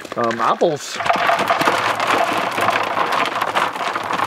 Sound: rattling

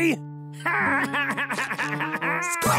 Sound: laughing

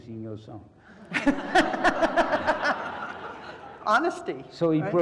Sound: laugh

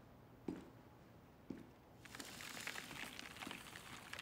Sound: dust smacking

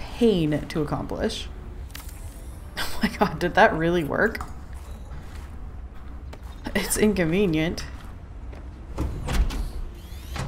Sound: laughs

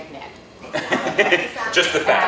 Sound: laughter

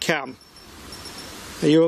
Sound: device beeps

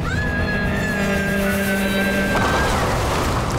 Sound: screaming

